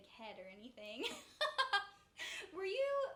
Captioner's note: laughs